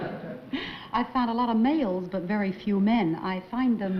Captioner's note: chuckles